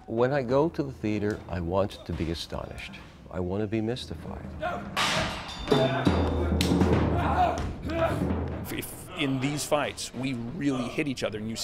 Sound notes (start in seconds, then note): 4.1 intense percussion music; 5.2 screaming